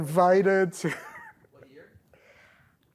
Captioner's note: laughs